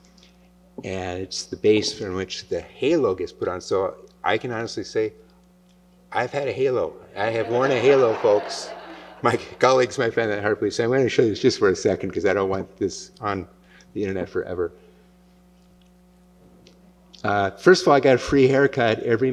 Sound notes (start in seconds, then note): 7.2 laughter